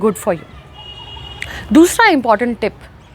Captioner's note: cars honking in the background